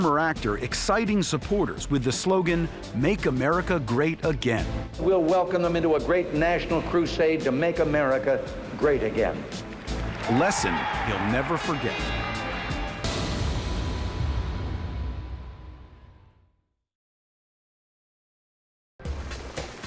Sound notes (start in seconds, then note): 12.1 cheers and applause